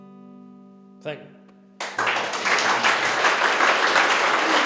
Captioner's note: applause